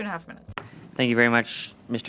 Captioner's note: speaking French